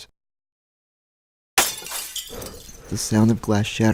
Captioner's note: glass shattering